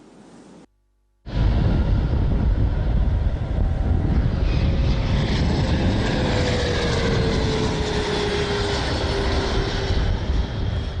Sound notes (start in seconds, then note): 6.2 engine rumbling